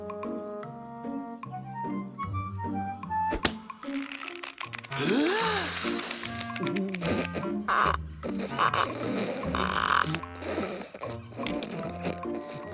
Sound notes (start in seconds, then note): 3.9 cinch creaking; 4.9 inhales